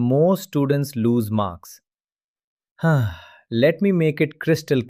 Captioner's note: sighs